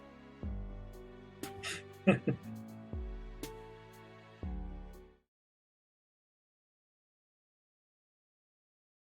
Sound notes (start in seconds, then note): 2.0 chuckles